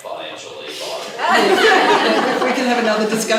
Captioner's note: laughing